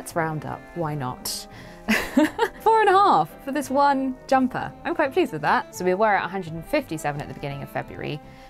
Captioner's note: laughs